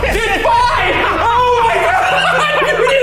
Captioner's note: laughs